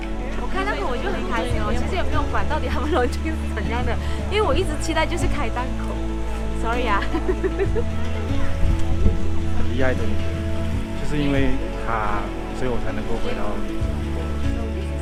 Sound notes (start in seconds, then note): 6.8 laugh